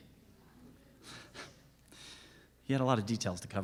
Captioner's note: laughing